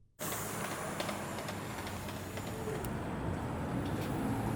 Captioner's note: car rumbles by softly